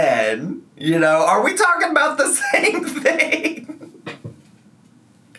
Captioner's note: laughs